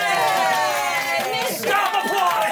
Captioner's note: everyone cheers